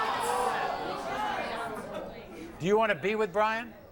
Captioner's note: audience groans